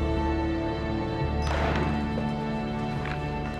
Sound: slams on table

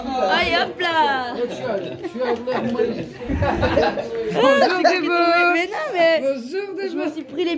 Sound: laughs

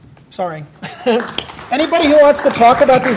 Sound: laugh; applause

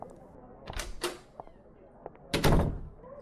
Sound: door opening and closing

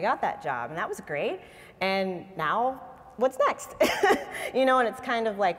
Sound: laughs

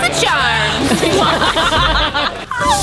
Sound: laughing

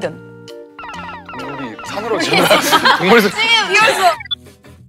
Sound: laughs

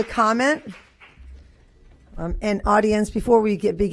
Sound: applause

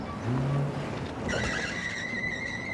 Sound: tires screeching

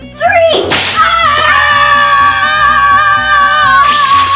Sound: assistant screams

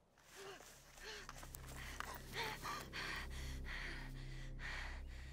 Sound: breathes heavy

